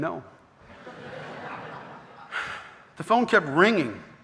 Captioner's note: audience laughing